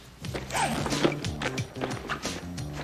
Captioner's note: exclaiming